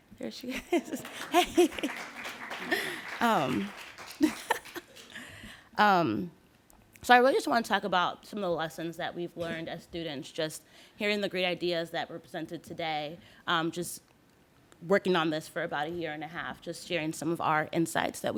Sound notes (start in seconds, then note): 0.8 applause; 3.8 laughs